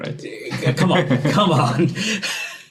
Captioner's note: laughing